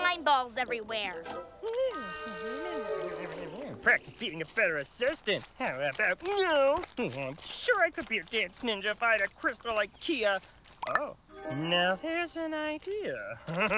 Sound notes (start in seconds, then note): 2.5 grumbling